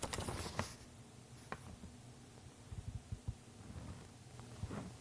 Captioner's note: turning pages